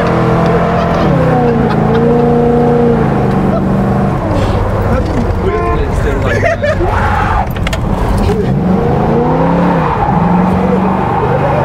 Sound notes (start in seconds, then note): 0.4 guys laugh; 5.5 guys laugh; 5.7 car horn beeps; 6.6 car revs